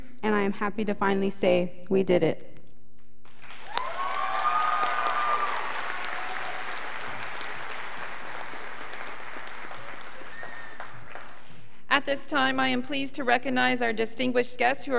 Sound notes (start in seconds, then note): 3.3 students applauding